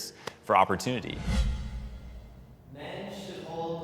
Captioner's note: dramatic whooshing